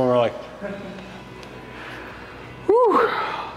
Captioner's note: team member chuckles